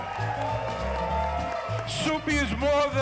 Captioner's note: audience cheering